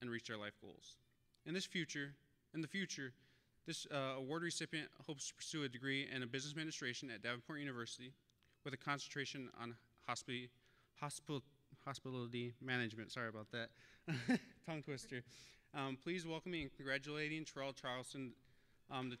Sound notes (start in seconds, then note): 14.1 laughing